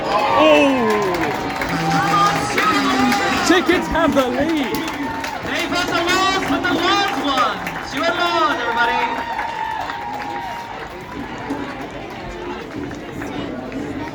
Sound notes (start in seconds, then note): 0.1 collective cheers and groans; 9.4 cheering